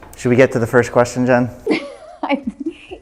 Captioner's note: laughs